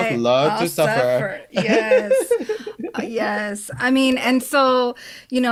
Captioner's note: laughs